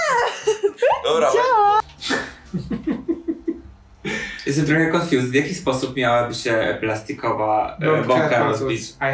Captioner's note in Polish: śmiech